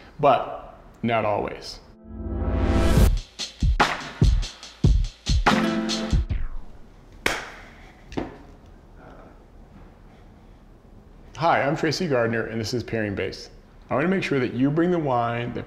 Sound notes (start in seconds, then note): 1.9 upbeat music; 7.2 clapping